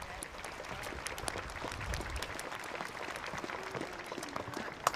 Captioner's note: applause